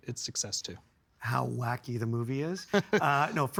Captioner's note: chuckling